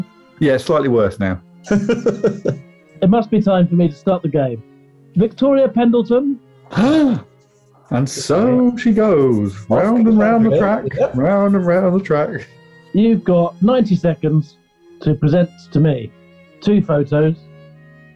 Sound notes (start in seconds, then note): 1.6 laughing; 6.6 gasps